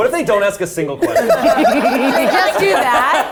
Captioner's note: all laughing